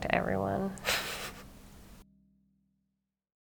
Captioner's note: laughs